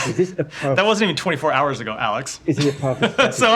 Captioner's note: laughter